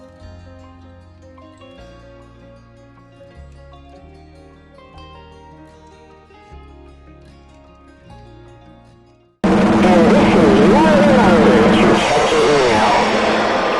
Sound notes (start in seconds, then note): 10.9 ear rapey cymbal crash; 12.9 people and a dinosaur jeering, moaning and screaming